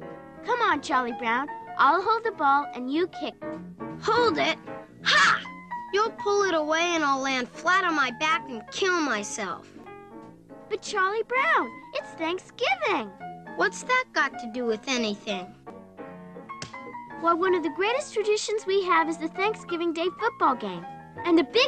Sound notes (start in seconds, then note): 16.6 smack